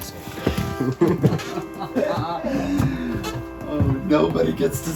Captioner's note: both laugh